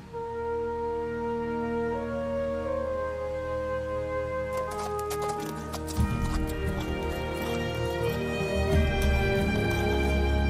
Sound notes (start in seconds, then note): 0.2 wind rustling; 4.3 hooves clomping